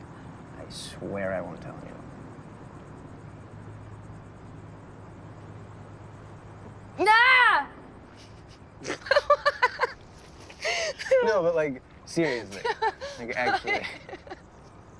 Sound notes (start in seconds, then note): 6.6 short loud yell; 8.8 both laughing